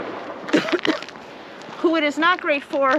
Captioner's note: coughs